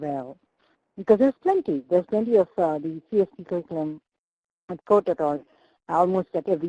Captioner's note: choppy mic